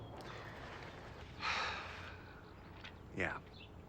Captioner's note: sighing